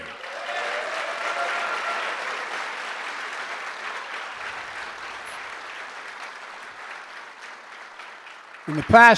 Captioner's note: applause